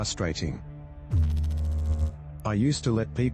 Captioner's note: electrical noise